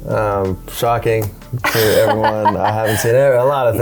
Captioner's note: laughter